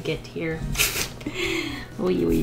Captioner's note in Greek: Γέλια